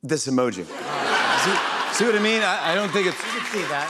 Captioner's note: laughter